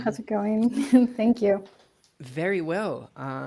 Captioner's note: chuckles